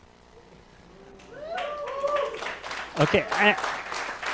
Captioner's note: applause